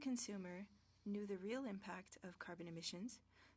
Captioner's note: speaking French